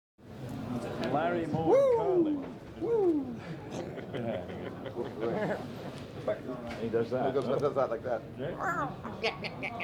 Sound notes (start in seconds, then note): 3.5 laughing